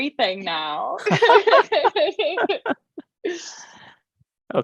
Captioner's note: laughter